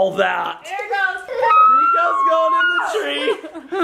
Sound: screeching

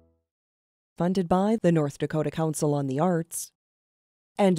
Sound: voiceover

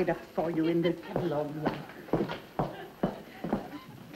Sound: heels clunking heavily against floor

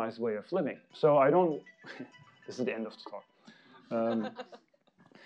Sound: phone ringing; audience laughing

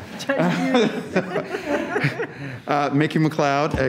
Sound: all laugh

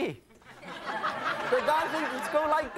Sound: audience laughing

